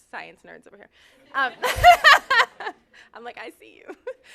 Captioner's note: laughter